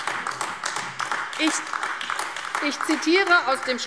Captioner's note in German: Beifall AfD